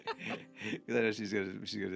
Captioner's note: both laughing